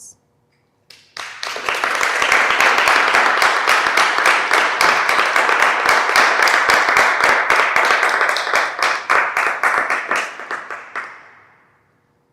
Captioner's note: applause